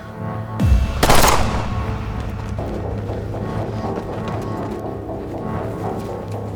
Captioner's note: suspenseful music; gunshot booms